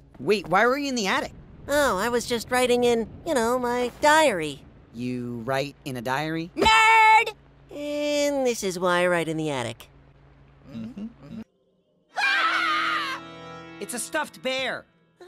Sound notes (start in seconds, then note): 12.1 everybody screams